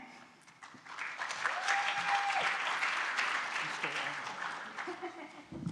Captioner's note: audience applauding